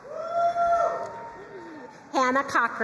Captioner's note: crowd cheering and applauding